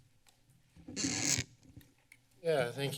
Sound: mic rustling

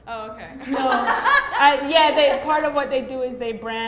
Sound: laughing

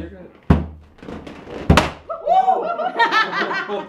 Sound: laughter

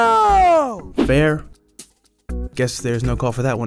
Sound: voiceover

